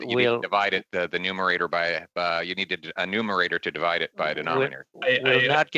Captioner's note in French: voix de l'interprète